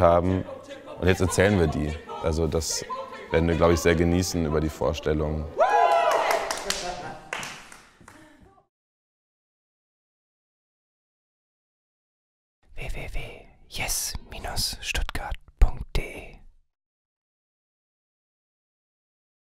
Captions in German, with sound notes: und jetzt erzählen wir die. Das werden wir, glaube ich, sehr genießen über die Vorstellung. [Klatschen, Jubel] [Stimme flüstert] www.jes-stuttgart.de